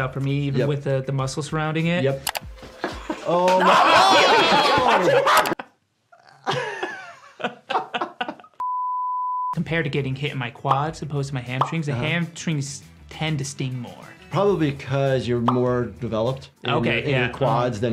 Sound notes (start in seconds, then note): 4.1 slapping sound; 6.3 laughing; 8.6 beeping noise